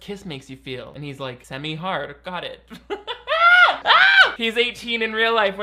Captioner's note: laughs